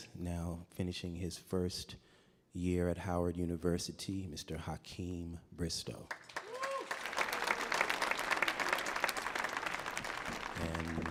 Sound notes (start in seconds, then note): 6.1 audience applauding